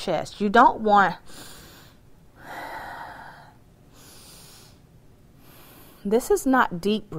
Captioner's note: breathing